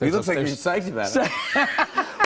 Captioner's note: laughter